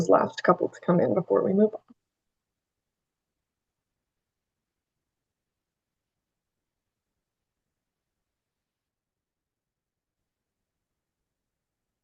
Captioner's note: pause